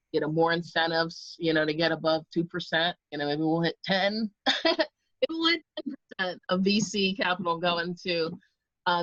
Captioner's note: laughs